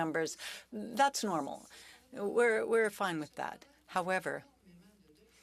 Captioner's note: speaking French